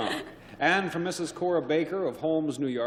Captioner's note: chuckles